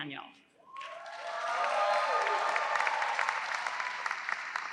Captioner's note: audience applauds